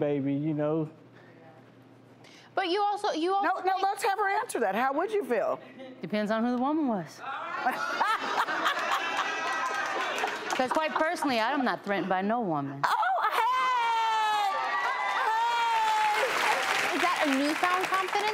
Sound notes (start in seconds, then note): 7.6 panel laughing